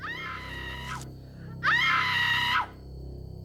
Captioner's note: Kate screams